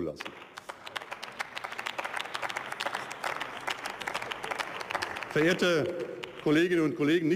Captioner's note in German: Beifall